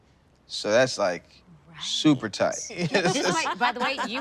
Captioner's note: laughing